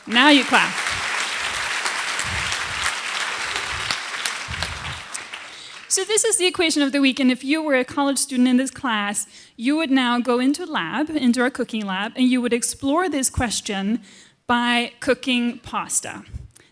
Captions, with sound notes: Now you clap. [APPLAUSE] So this is the equation of the week. And if you were a college student in this class, you would now go into lab, into our cooking lab, and you would explore this question by cooking pasta.